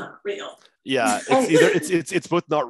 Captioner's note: laughs